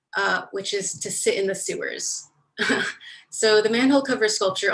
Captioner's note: chuckles